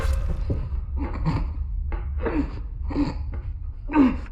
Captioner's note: grunting